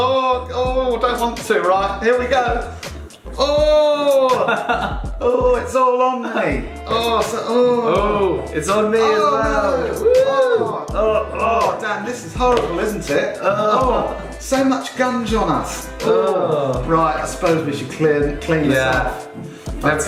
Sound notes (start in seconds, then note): 3.8 laughs; 11.3 groans; 13.6 groans